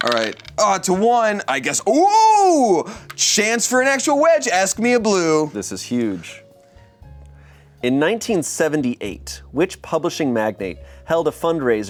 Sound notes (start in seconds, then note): none